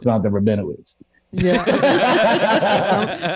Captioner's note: everyone Laughs